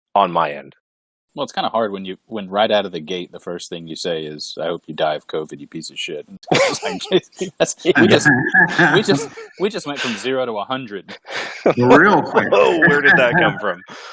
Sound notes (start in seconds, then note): 8.5 everyone laughs